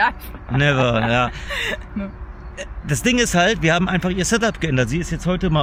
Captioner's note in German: gelächter